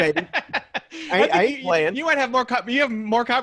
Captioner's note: laughs